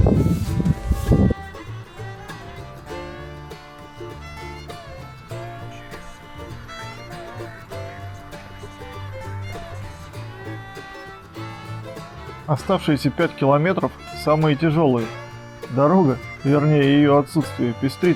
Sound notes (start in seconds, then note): 5.9 a voice from the navigator advises to turn around